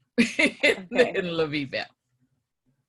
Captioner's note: laugh